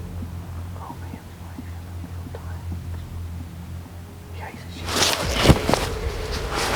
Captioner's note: whispering